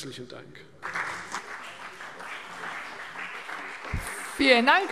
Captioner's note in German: Beifall CDU und BÜNDNIS 90/DIE GRÜNEN